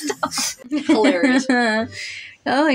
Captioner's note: chuckle; laughing